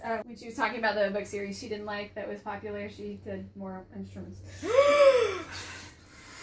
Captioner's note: gasp